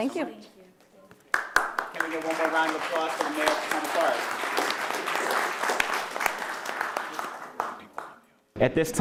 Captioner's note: applause